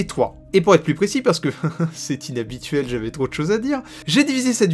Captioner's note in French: Rire